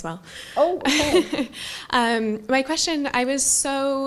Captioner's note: laugh